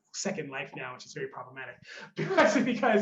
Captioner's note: laughs